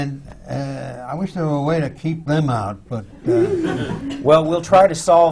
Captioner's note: laughter